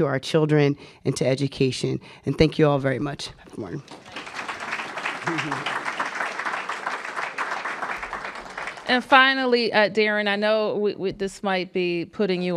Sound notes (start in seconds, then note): 3.8 applause